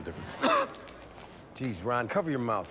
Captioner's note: Ron coughs